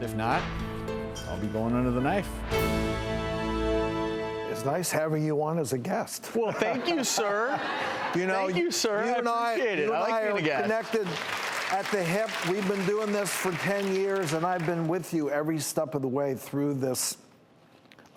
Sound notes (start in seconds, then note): 6.0 laughs; 6.5 audience laughing